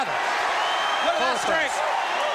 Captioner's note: crowd cheering